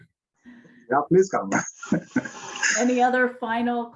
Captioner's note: laughs